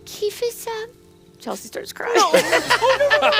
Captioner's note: laughing